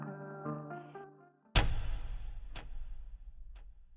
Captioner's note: music fades out; sound of theatre lights being turned off and on